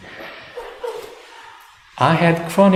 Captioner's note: laughter